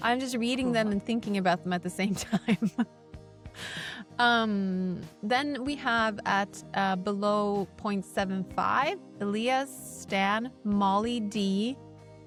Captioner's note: laughs